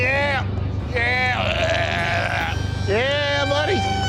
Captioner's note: groans